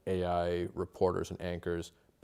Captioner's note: speaking alternate language